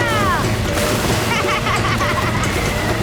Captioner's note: laughing